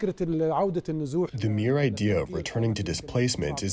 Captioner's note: through translator